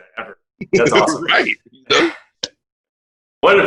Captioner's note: laughing